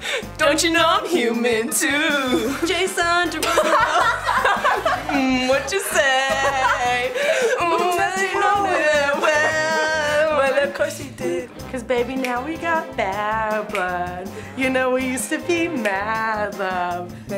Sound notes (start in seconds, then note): 4.1 laughing